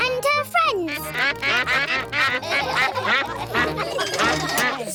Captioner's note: quacks; all quack; laughter